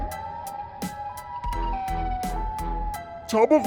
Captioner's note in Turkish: Siren kafa sesi